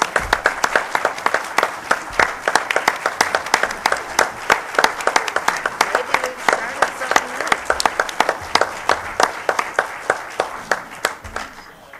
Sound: applause

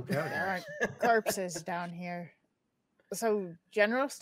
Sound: laughing

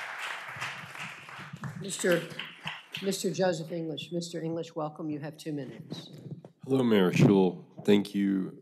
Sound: applause

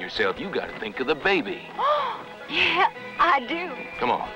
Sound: gasp

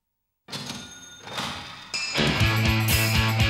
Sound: cash register dings; upbeat music

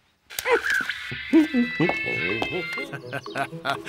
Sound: hums; chuckles

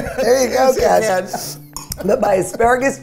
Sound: laughs

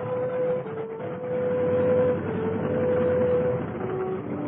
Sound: propellers whirring

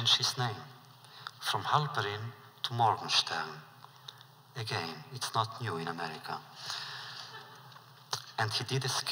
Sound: laughter

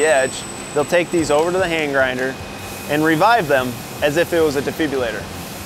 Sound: drills

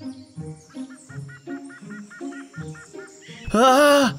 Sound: bird squawking

